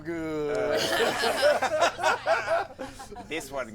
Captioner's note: laughter